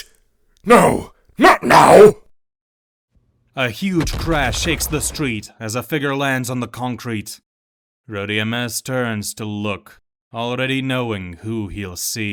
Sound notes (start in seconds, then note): 3.9 crash sound effect